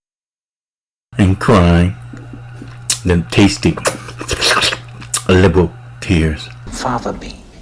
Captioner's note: and crying them tasty slurping noises liberal tears